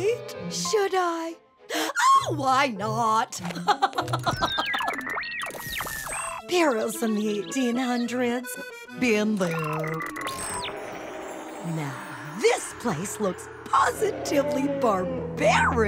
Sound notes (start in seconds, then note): 3.5 laughing